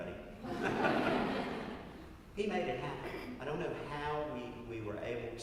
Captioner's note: laugh